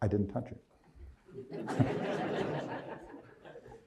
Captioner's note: crowd laughs